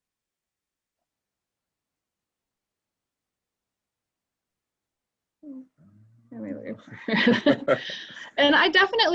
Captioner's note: silence